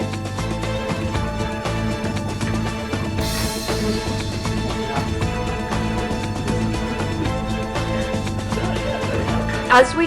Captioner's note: steps